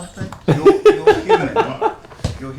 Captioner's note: laughter